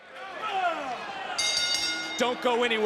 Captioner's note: bell rings